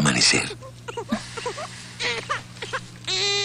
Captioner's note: baby crying